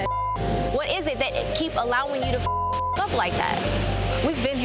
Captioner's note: beep; beep